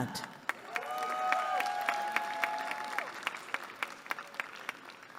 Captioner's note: cheering